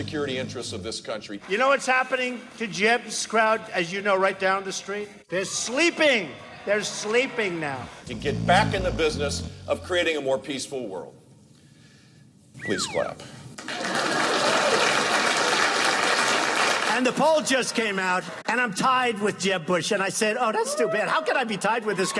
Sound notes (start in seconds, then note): 7.7 snoring; 13.4 slide whistle music; 13.6 clapping; 13.6 crowd laughing